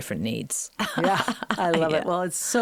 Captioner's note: Kate laughing